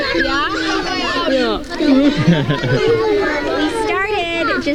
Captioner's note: laughing